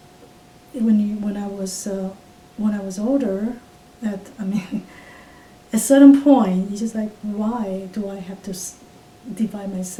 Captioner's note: laughs